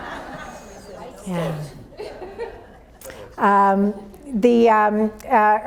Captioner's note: audience laughs; overlapping chatter